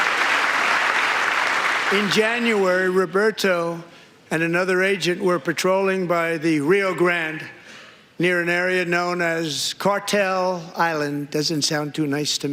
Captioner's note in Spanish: aplausos